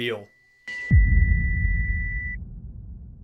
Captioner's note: heart Monitor Flat-Lining